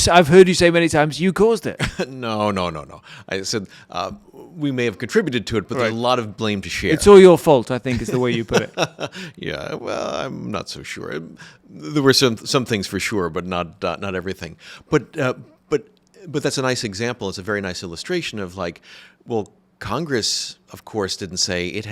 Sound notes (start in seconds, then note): 1.8 laughs; 7.8 laughs